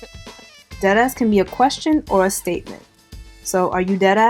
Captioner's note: laughing; voiceover